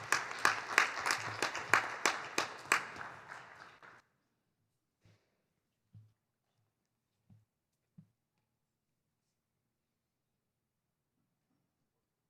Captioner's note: clapping